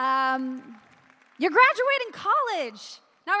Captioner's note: applause